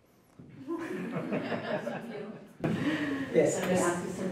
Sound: laughter

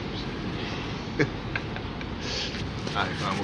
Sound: loan shark chuckles

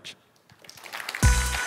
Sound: applause

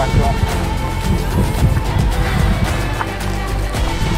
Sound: big sigh

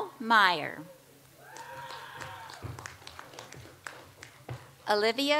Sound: audience applauds

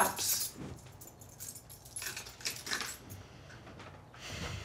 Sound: keys clink

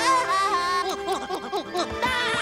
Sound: laughing; smooching; laughing

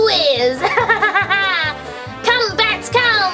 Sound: laughs maniacally

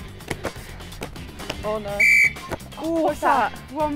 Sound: whistle blows

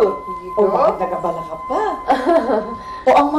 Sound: Minda chuckles

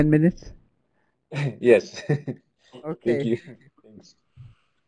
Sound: chuckle

